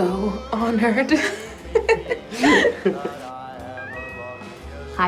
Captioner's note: laughing